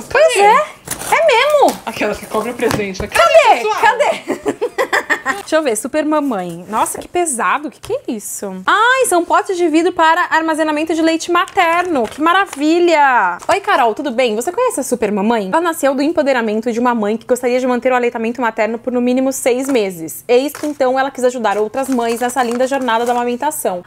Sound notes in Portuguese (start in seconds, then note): 4.0 risos